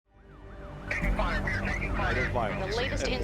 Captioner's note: police Radio